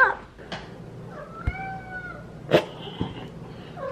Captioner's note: Harry meows